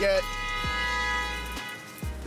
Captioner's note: car horn